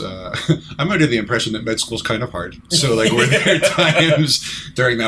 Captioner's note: laughter